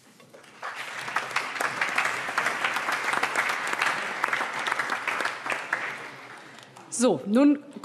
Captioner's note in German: Allgemeiner Beifall